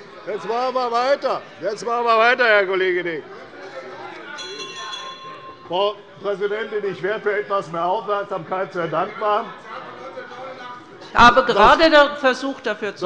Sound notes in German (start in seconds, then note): 4.3 Lebhafte Zurufe von der SPD - Glockenzeichen der Präsidentin